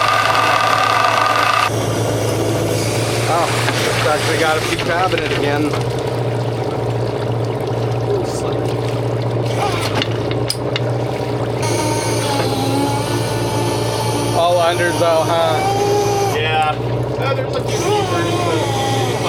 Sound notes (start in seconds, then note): 5.4 motor whirring